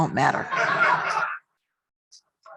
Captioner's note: laughter